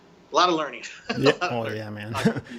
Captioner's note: chuckles